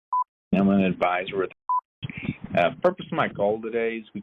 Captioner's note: beep; beep